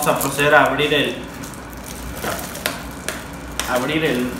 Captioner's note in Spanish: Nailon rompiéndose